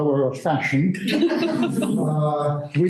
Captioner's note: laughter